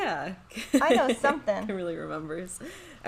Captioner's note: laughing